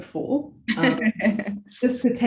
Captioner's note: laughs